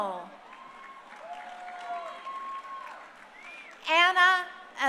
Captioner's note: crowd cheering